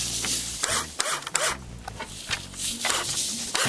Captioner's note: drilling